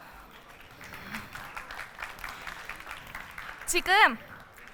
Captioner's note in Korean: 박수